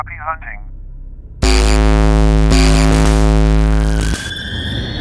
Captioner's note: computer buzzing; dramatic music